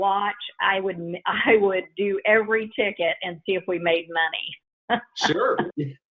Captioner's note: laughs